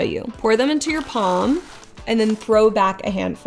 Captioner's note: croutons clattering